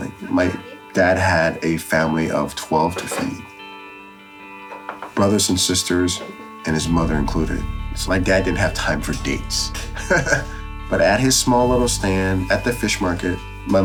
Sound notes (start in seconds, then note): 9.5 laughs